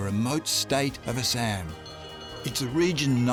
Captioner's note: bells clanging